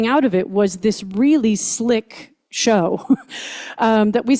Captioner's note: chuckles